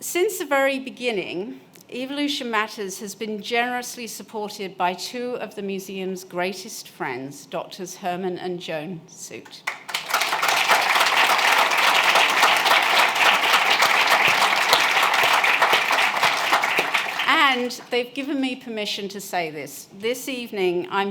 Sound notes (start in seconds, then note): 9.6 applause